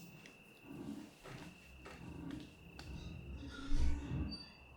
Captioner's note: object scraping